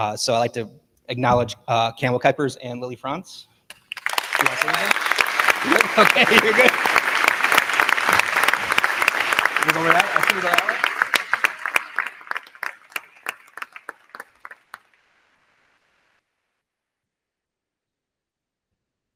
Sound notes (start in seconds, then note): 4.1 crowd cheering; 4.1 crowd clapping